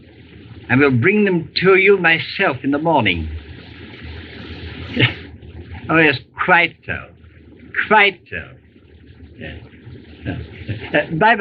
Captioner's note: chuckles